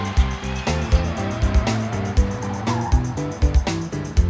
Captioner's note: screeching; laughing